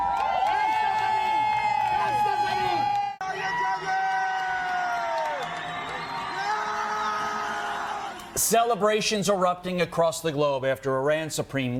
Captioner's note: cheers